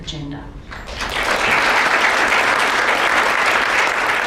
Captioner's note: audience applauds